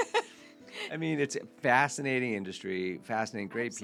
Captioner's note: laughing